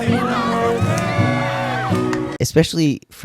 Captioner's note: cheering